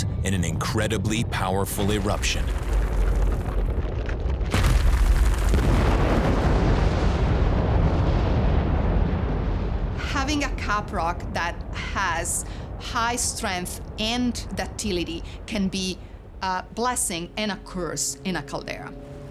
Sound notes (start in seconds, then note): 4.3 explosions echoing